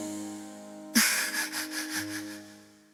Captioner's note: laughter